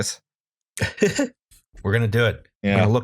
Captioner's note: laughter